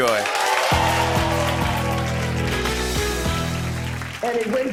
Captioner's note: cheers and applause